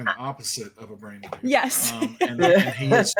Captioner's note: chuckles